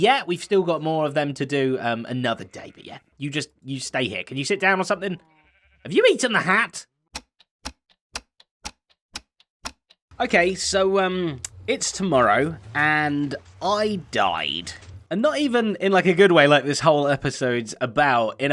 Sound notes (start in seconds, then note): 8.1 ticking clock